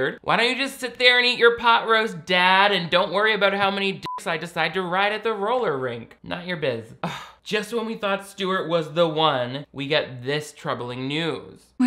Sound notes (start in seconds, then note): 4.0 beep; 7.0 sighs